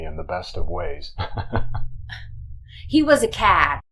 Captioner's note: giggles